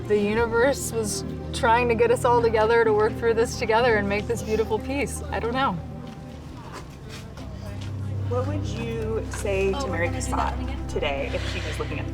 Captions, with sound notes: The universe was trying to get us all together to work through this together and make this beautiful piece. I don't know. [INDISTINCT CHATTER] What would you say to Mary Cassatt today if she was looking